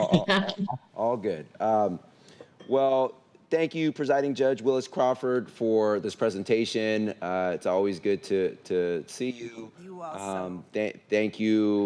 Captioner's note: laughter